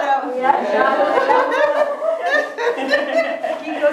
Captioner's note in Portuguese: risadas